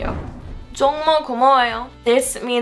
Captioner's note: foreign language